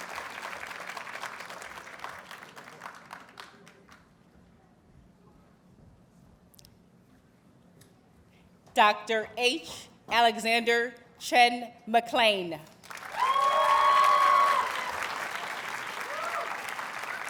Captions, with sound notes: Dr. H. Alexander Chen-MacLean. [Audience cheers and applauds]